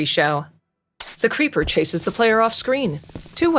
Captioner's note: Creeper hisses